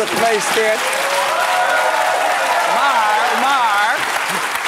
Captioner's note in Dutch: applaus, gejuich